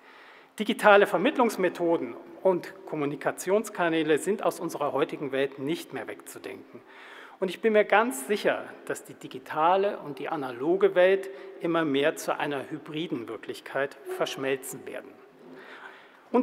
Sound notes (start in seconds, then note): none